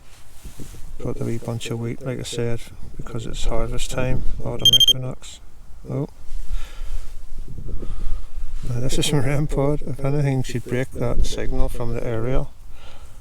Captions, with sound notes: I brought the wee bunch of wheat, like I said...because it`s harvest time. Autumn equinox....( REM POD BLEEPS) OH...!? Now this is my REM pod, if anything should break that signal from the aerial...